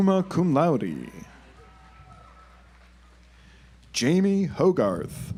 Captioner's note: audience applauds